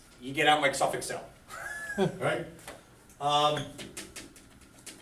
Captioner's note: laughs